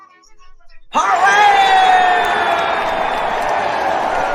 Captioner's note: all cheering